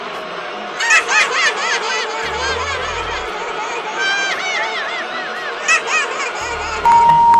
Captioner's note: laughing